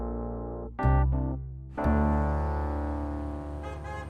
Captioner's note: horns honking